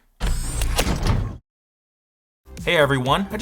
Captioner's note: door whirring, locks latch